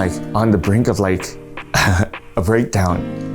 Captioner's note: chuckles